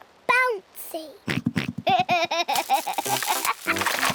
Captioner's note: oinks and giggles